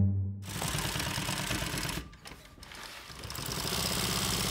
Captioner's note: machine rattling